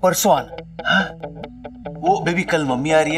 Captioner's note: Baburao gasps